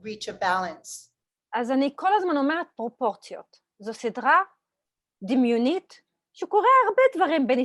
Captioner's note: Hebrew